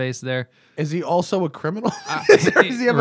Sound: laughter

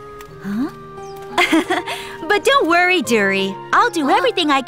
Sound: Hana laughs

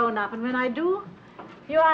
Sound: none

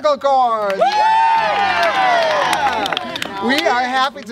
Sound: cheering

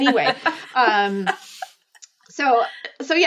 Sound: laughing

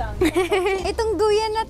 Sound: chuckles

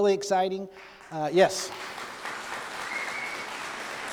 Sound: applause

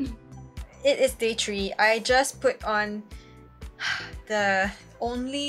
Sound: sigh

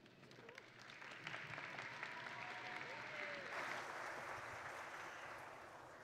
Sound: audience and graduates applauding

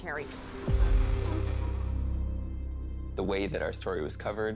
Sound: static

